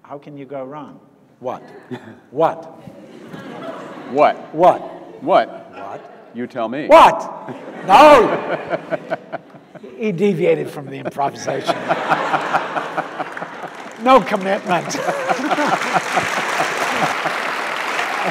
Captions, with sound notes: How can you go wrong? What? What? - What? - What? - What? - What? - You tell me. - What? No, he deviated from the improvisation. (audience laughs) No commitment. (audience applauds)